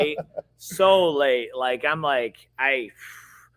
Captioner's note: sighs